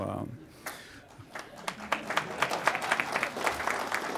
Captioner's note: applause